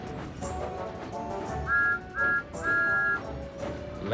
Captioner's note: whistle toots